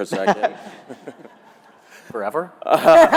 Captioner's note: attendees laughing